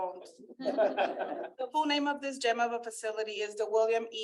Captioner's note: laughter